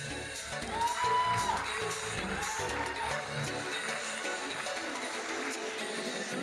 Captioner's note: audience cheering and applauding